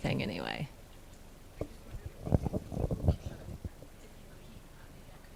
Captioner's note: speaking off mic